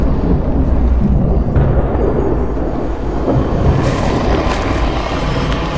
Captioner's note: atmosphere rumbling